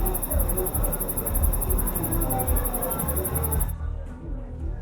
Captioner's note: hubbub